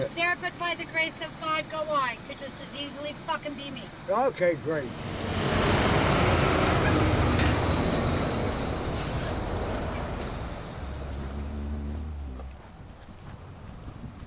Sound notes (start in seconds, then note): 5.3 truck roaring; 11.2 humming